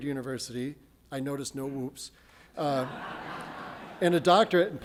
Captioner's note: audience laughs